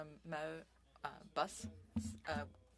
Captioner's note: speaking French